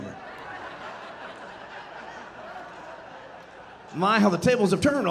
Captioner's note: audience laughing